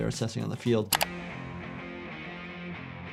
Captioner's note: keyboard clicking; upbeat music